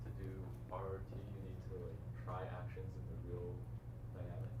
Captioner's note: faintly speaking